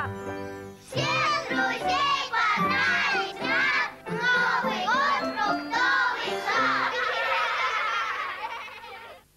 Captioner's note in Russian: смех